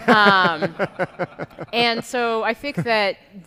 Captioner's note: audience laughing